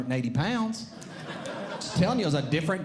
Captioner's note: audience Laughing